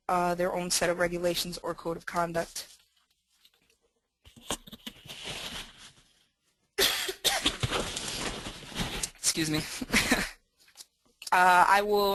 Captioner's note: cough, cough